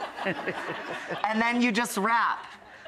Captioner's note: audience laughing; laughter